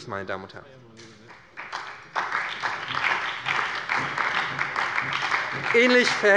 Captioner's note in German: Beifall bei der SPD